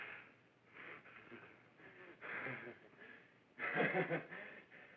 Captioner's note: breathing heavily